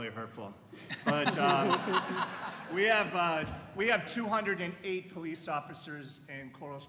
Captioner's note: laughter